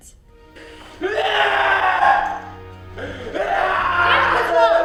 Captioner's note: David screaming